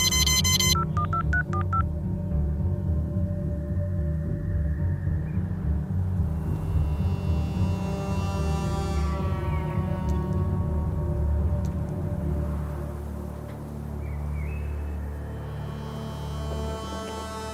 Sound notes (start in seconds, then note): 0.0 digital button pressing sounds